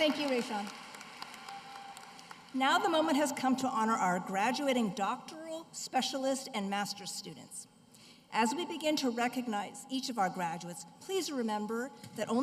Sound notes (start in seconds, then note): 3.3 cheers and applause